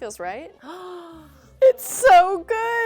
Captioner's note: gasps